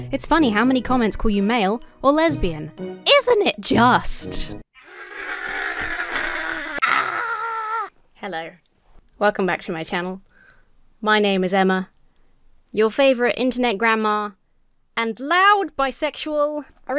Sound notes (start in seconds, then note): 4.8 screaming; 6.8 shouts